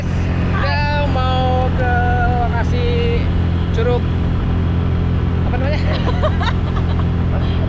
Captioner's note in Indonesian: Tertawa